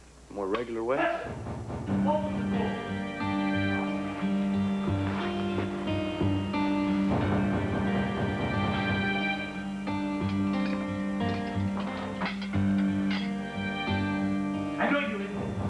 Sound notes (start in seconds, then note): 3.6 knock on door; 10.3 knock